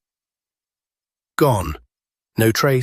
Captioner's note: pause